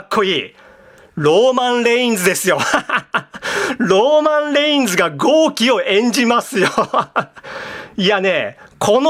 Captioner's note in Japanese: 笑い